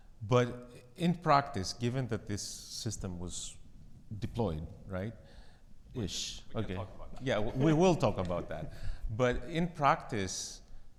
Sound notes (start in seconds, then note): 6.6 chuckles